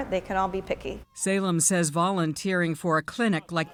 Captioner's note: voice-over